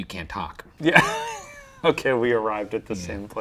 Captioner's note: chuckling